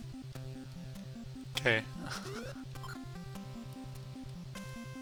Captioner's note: laughs